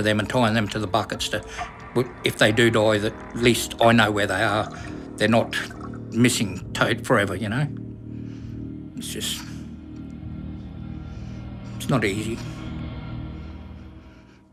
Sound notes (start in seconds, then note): 12.2 sighing